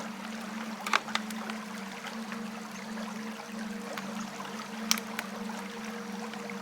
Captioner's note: river running